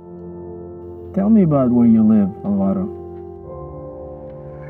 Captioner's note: voiceover